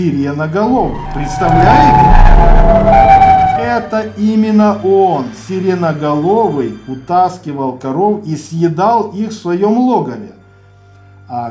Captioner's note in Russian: жуткий крик Сиреноголового